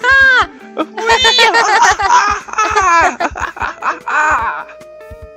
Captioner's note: victory laughing